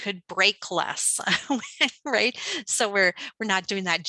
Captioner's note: laughing